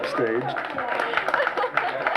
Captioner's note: applause